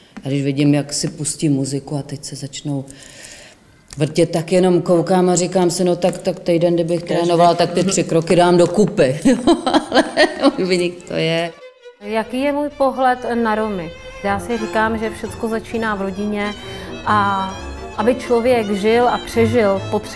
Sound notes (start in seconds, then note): 9.2 laugh